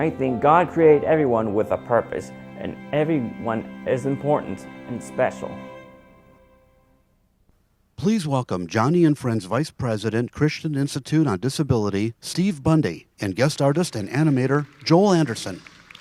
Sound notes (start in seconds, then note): 8.1 voiceover